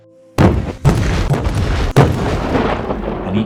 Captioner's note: explosion